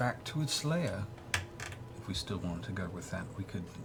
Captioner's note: none